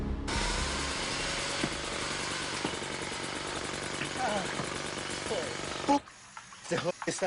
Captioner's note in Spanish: Ruido del taladro